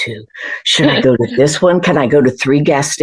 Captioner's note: laughter